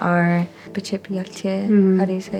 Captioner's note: speaking in Diné